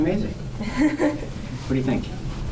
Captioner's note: laughs